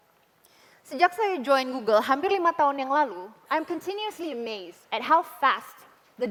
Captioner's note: non-english speech